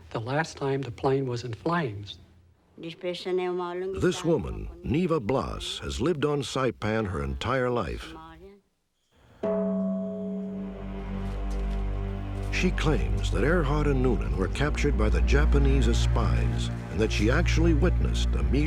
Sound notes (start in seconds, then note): 2.5 non-english speech; 9.4 dong